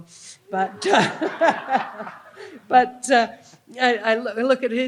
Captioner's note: laughing